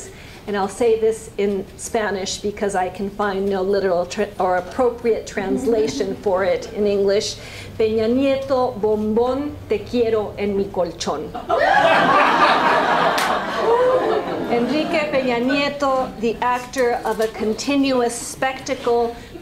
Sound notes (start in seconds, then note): 7.5 speaking spanish; 11.3 laughter